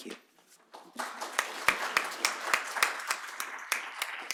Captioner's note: applause